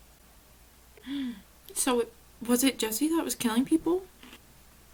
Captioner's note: gasp